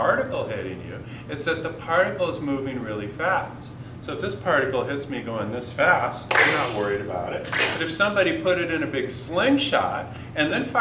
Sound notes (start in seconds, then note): 6.3 metallic pinging